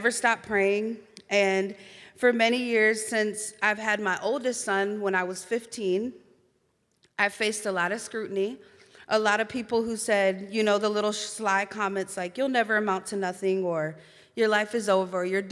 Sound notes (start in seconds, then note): none